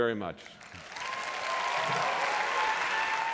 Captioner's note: applause